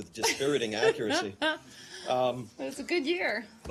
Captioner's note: laughter